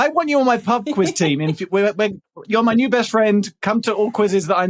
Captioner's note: stammers